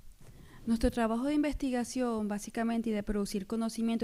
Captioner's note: speaking spanish